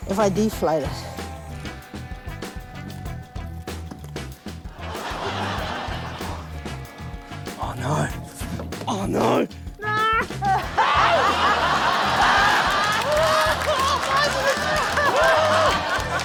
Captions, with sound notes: if I deflate it. (LAUGHTER) - Oh no. Oh no! Nooo! (LAUGHTER, APPLAUSE) - Why does this―? Aargh!